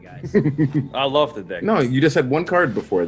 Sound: laugh

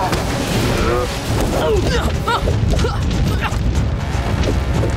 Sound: grunting

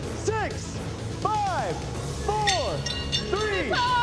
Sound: blade clinks

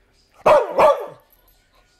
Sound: barking

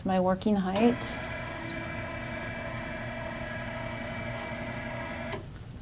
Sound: bed controls squeal

